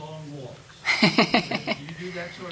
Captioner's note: laughing